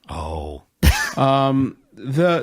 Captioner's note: laughing